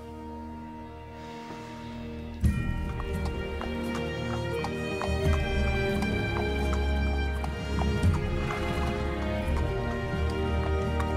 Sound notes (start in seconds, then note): 2.2 horse hooves clop